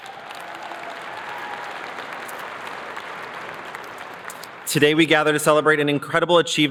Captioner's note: cheers and applause